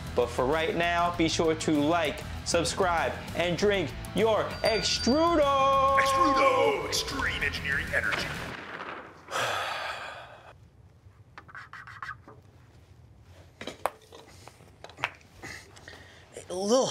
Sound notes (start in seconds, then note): 9.2 sighing; 9.7 marker scraping